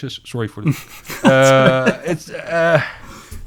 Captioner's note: laughing